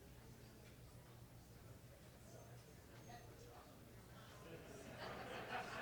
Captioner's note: audience chatter